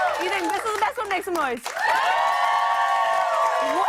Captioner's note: loud cheers